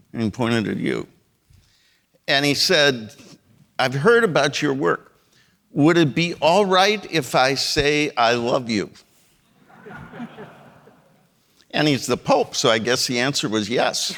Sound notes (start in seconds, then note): 9.5 audience laughing